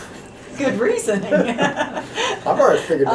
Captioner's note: laughter